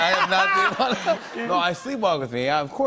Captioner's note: laughter